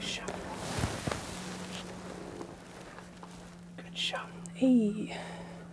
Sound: whispering

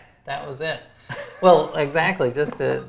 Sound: laughs

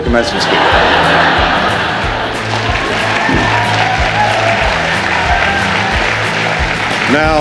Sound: laughter and applause

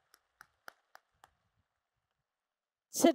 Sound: applause

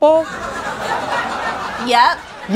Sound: audience laughs

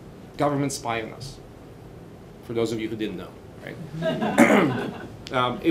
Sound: laughter

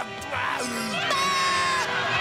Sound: screaming

